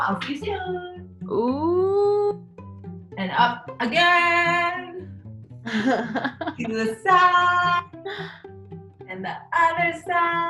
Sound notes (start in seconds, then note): 5.6 laughs